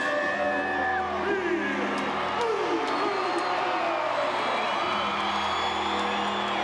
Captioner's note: crowd cheering; crowd chattering